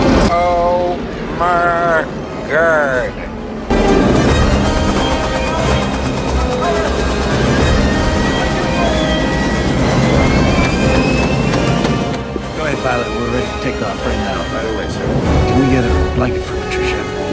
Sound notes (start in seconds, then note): 5.7 indistinct chatter; 7.4 plane engines whine